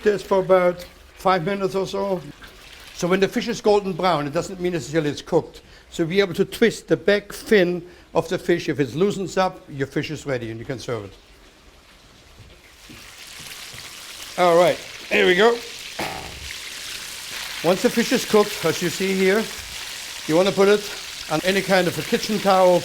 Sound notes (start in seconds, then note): 11.5 sizzling